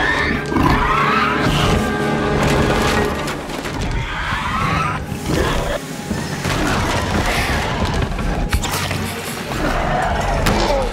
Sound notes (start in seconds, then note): 0.0 velociraptor growls; 0.3 dinosaurs fighting; 6.5 furniture falling over